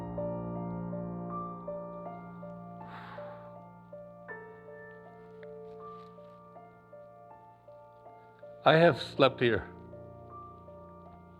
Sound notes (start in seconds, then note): 2.8 sighs, emotionally